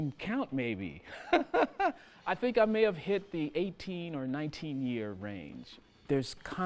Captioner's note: chuckling